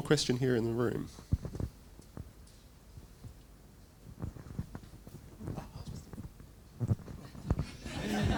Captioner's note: general laughter